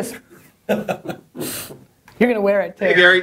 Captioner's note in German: Leute lachen